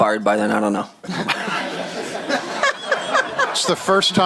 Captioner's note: laughter